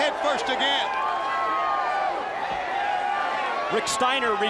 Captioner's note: crowd yelling